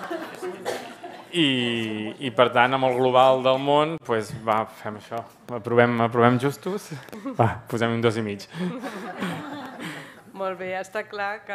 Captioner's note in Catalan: riures; riures